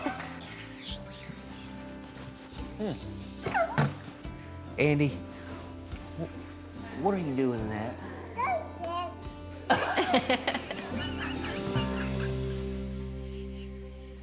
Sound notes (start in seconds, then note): 8.2 babbles; 9.7 laughs